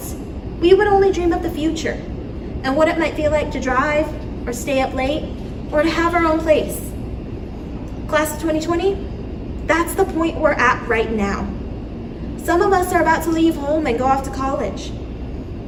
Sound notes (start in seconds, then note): none